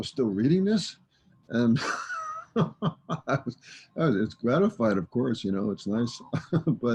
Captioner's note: laughs